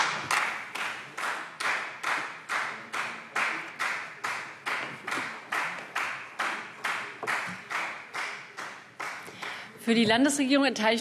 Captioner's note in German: Beifall Freie Demokraten